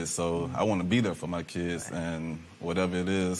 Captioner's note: none